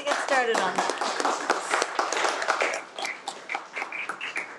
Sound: applauds

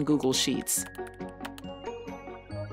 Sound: keyboard clacking

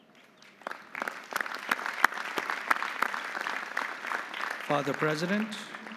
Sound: audience applauding

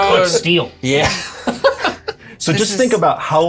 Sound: laughs

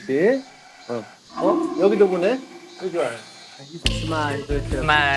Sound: a hollow sound

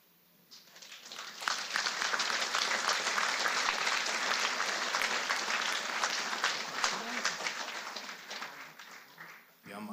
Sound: applause

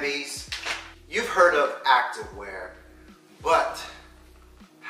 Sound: package rustling

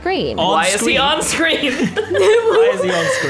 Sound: laughs; chuckles

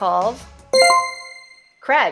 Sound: chime rings

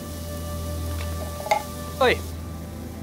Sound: can clanking

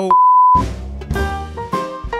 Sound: graphic beeps

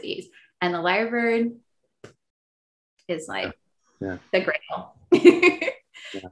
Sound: laughs

